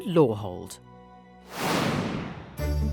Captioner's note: air whooshing; bouncy upbeat music